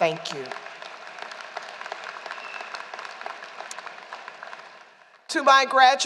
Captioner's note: applause